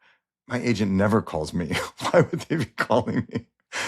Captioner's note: laughs